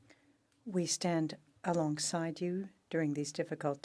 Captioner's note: speaking French